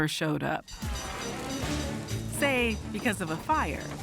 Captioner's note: bell ringing